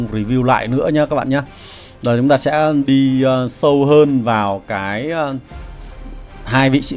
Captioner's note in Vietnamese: khịt mũi